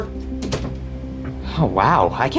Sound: door thuds

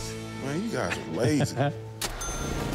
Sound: laughs

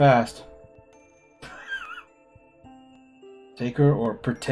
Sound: laughs softly

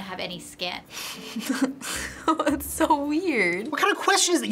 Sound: chuckles

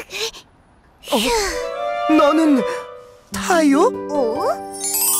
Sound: sighs

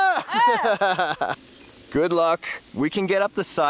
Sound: laughing

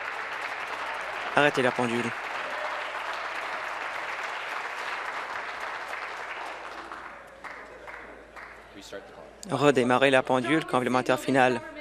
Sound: applause

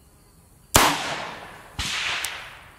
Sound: gun fires

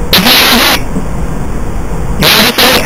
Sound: audio playback of cosmic radiation

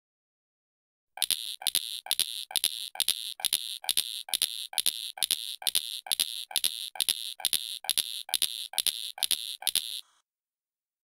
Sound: sound of ticking

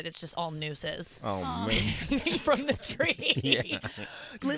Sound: laughing

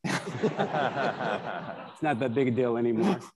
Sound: attendees laughing

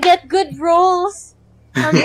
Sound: all laugh

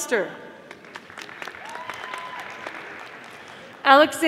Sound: audience applauding

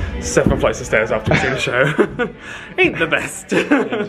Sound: laughs

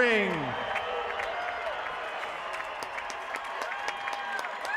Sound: applause

